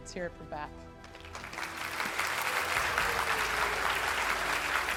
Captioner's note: audience applauds